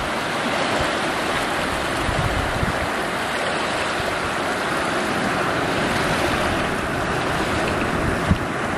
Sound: crashing waves

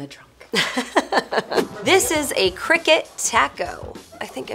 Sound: laughing

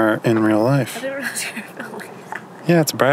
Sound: laughing

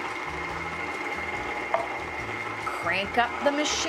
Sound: mixer whizzing

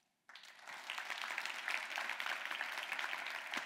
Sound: applause

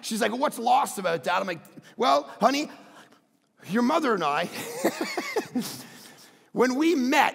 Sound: laughs

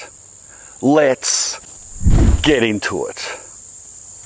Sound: wind whooshes

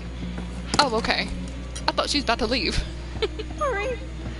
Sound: laughs

